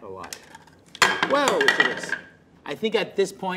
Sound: plastic clatters

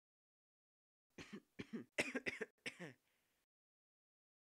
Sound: coughing

